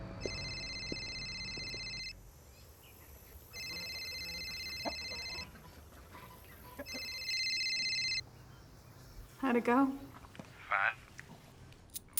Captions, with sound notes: [CELL PHONE RINGS] [CHICKENS CLUCK] [CELL PHONE RINGS] HOW'D IT GO? CASEY: FINE.